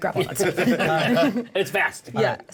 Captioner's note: laughter